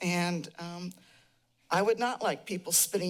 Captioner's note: none